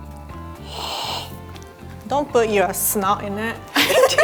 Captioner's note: sniffing